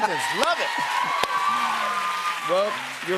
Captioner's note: cheers and applause